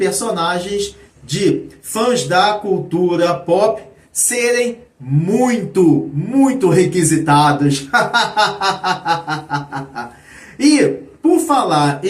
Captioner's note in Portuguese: risadas